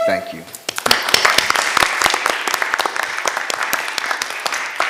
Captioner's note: members clapping